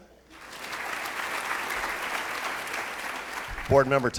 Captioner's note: applauding